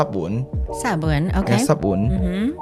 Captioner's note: Taiwanese